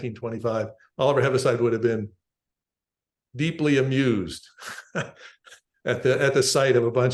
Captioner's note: laughs